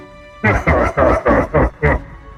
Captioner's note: Bad 2 laughs